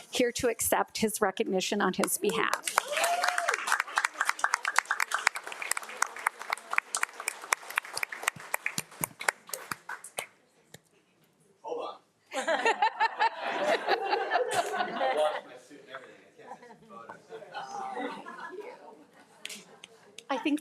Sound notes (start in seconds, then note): 2.3 audience applauds; 12.3 attendees laugh